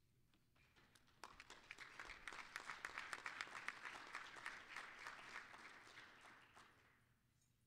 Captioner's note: applause